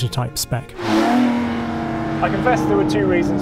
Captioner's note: car engine revving